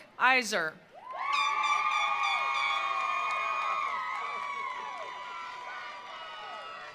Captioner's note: attendees cheering; attendees applauding